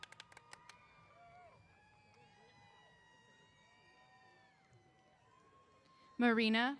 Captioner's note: applause & Cheers